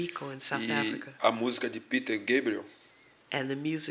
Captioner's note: speaking portuguese